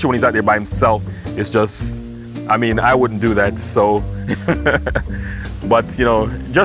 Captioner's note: laughing